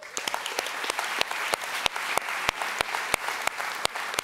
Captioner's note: audience applauds